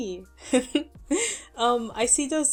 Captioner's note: laughs